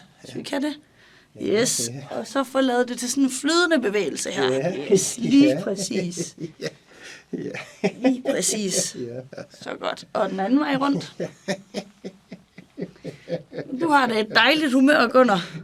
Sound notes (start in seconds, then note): 7.3 laughs